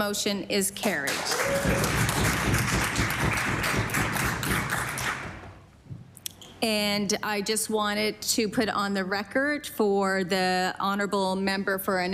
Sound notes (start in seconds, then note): 5.6 applause